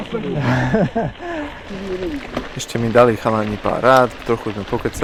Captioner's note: laughs